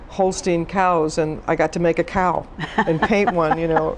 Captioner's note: laughs